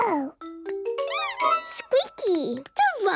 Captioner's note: squeaks